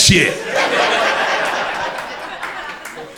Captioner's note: crowd laughter